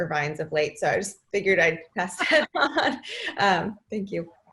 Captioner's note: laughing